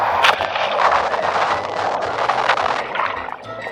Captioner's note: water splashes against camera